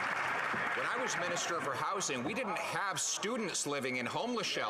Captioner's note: some Applause